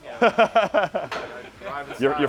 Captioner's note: laughing